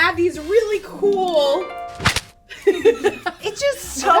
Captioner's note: harp sounds; elastic snaps; all laugh